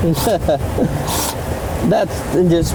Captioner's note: chuckles